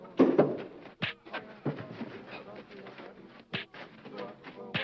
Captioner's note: face punching